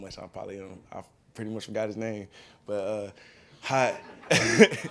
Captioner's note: laughing